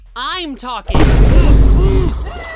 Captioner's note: crowd gasps